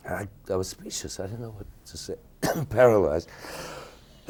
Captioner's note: coughing